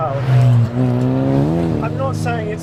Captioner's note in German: Motordrehzahl steigt weiter an